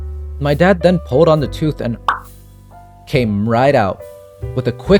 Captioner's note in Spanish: pop